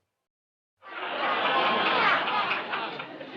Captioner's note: laughter